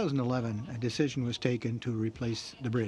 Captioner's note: speaking in french